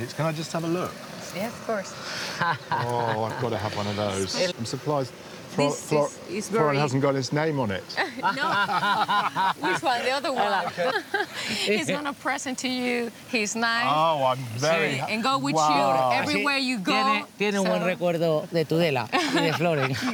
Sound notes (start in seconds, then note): 8.0 laughter; 17.3 speaks in spanish